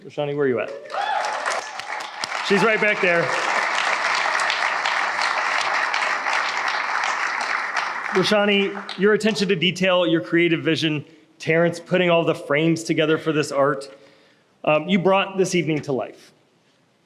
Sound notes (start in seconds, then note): 3.4 applause